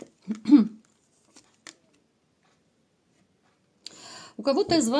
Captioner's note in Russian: откашливается